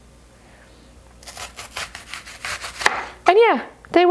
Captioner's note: knife cutting